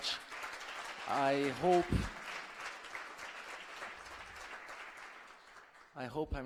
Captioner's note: applause